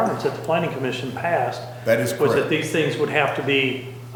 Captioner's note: none